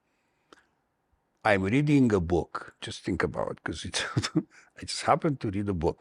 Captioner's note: laughter